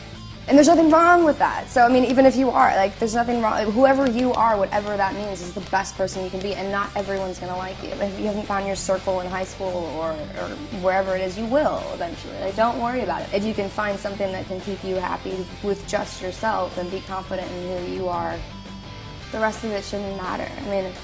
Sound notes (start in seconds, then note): none